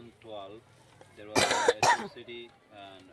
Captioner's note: coughs